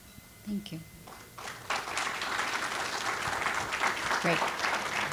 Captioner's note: audience applauds